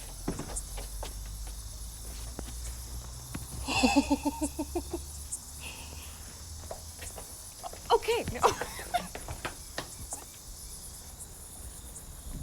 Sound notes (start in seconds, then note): 3.6 Laura chuckles; 7.9 giggles